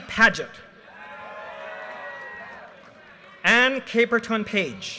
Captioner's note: audience cheers and applause